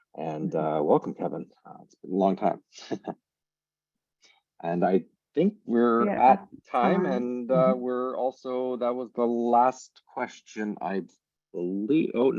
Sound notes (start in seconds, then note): 2.8 chuckles